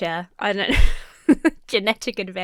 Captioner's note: laughs